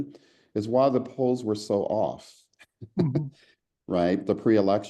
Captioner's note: laugh